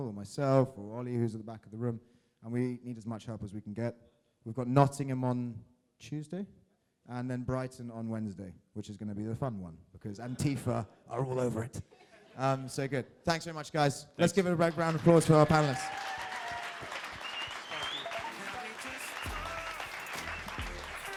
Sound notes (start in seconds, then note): 16.2 crowd applauding